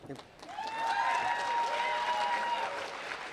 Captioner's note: applause